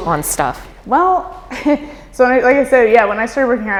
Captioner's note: laughs